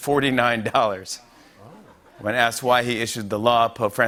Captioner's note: laughter